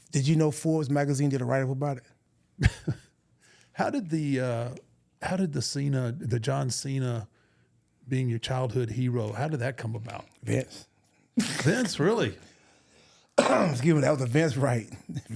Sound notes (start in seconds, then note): 13.3 coughs